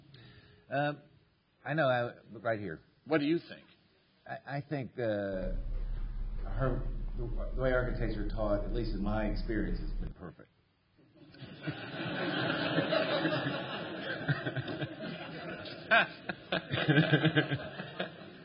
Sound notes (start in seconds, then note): 11.2 laughter